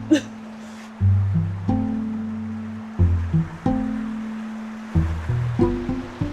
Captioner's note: water streams; laughs; eerie music